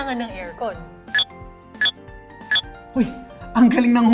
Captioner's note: Mind-blower beeps